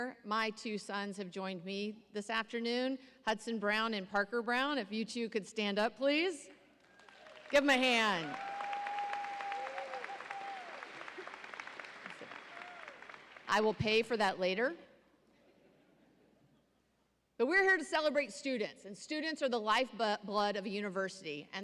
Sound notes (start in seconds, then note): 6.8 audience applauding